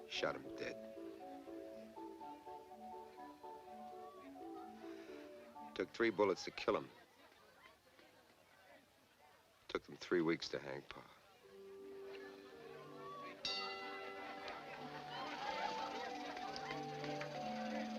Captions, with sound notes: Shot him dead. (lively music) Took three bullets to kill him. Took them three weeks to hang pa. (bell dinging) (gentle music)